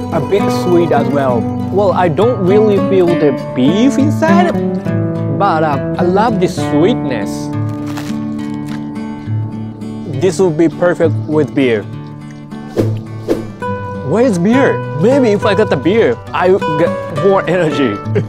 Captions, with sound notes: A bit sweet as well. Well, I don't really feel the beef inside. But, I love this sweetness. [PIE CRUNCHES] This would be perfect with beer. Where's beer? Maybe if I got the beer, I would get more energy.